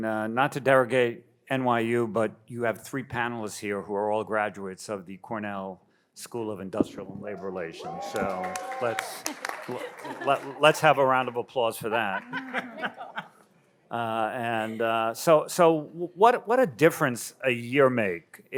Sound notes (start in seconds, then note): 7.4 audience applauds and cheers; 11.9 panel laughs